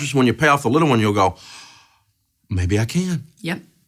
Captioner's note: gasps